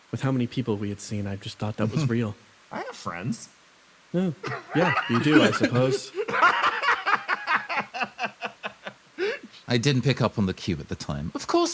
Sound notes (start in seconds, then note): 6.2 laugh